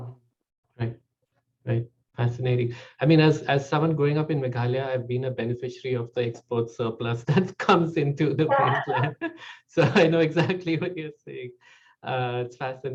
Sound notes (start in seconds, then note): 8.5 laughs